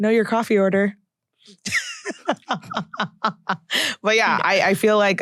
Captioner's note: laughs